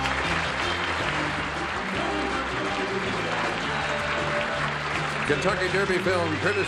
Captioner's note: applause